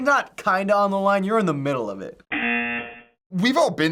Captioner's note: buzzer